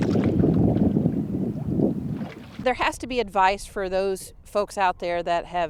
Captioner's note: water splash